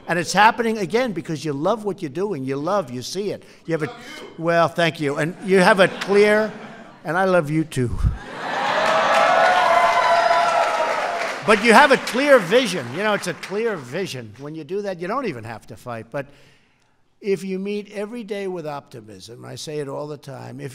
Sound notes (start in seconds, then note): 8.5 applause